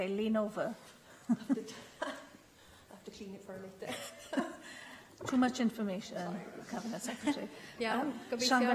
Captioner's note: laughter